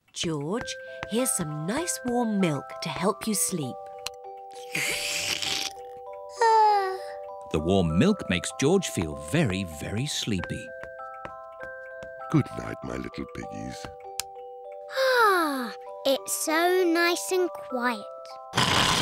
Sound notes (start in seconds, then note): 6.7 yawns; 15.2 sighs happily